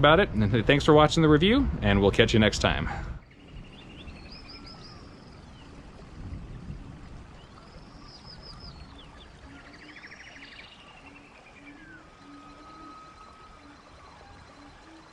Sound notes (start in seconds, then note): 3.1 animals calling; 4.1 birds chirping; 6.3 thunder rumbling; 6.3 water flowing